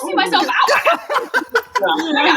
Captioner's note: laughter